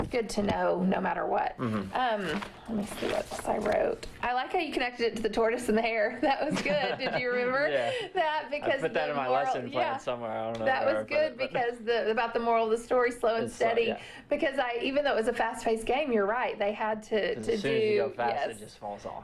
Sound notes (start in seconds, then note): 6.4 laughter